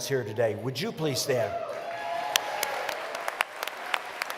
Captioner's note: applause